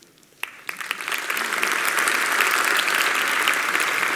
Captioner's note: applause